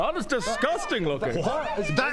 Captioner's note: distant shouts of "over here!"